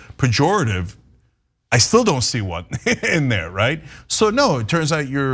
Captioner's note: laugh